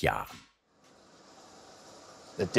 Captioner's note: hissing